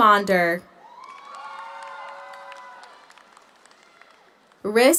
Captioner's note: audience cheers; audience applauds